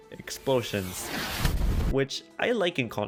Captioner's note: explosion sfx